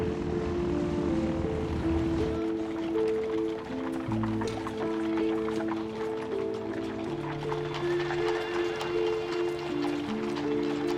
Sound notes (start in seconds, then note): 3.1 clatter of horses